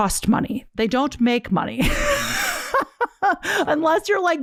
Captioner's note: laughs